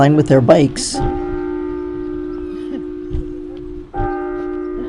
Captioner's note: church bells